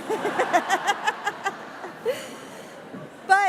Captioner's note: laughter